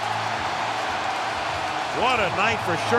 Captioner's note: cheering